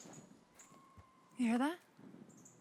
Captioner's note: animal screeching in distance